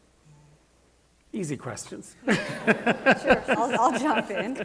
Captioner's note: laughs